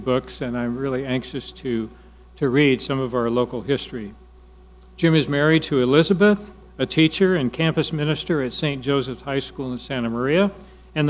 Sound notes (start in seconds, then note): none